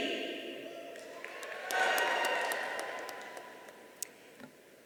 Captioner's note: audience cheering